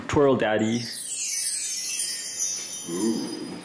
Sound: chimes ringing

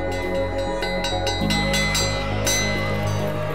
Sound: school bell clangs

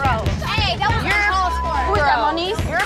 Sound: yells

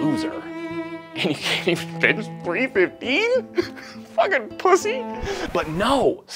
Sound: laughing

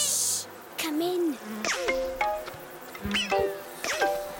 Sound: insects buzzing

